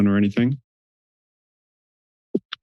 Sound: silence

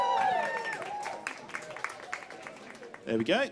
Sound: cheers

